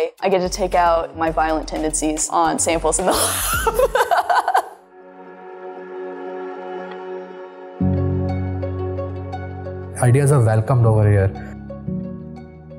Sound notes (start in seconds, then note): 3.1 laughs; 5.5 gentle music